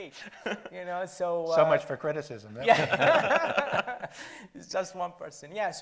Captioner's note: panel laughs